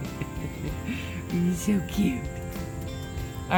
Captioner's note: laughs